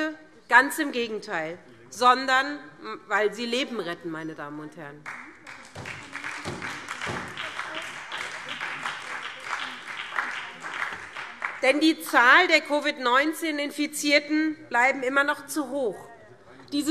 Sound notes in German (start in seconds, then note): 5.0 Beifall SPD